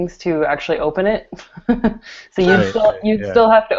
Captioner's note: laughs